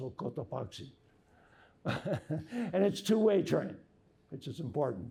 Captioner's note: laughter